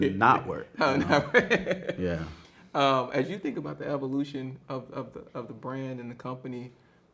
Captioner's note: laughs